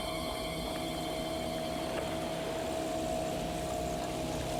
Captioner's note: boat motor roaring